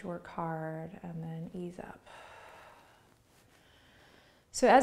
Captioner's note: exhales breath